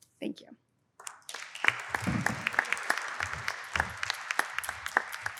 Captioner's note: applause